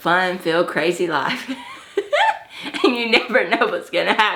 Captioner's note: laughs